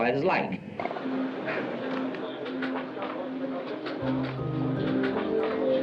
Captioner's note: talking in background